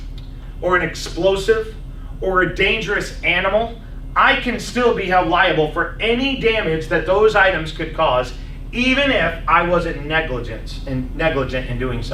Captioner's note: laughs